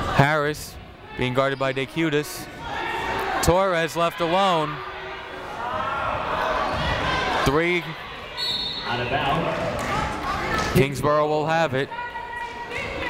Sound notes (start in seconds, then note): 5.4 people shouting in the crowd; 8.4 whistle tweeting